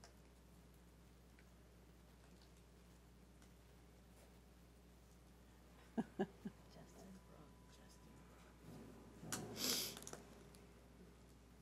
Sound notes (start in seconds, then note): 5.8 chuckles